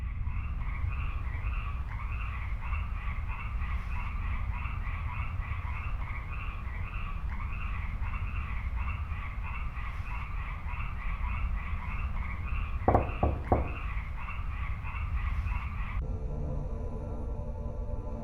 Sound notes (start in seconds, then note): 11.2 knocking on door